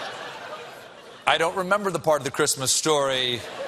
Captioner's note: laughter